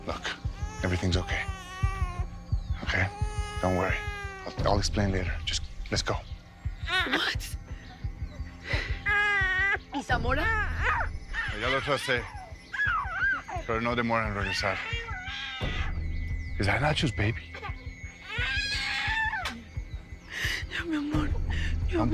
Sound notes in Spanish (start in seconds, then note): 17.4 Llanto del bebé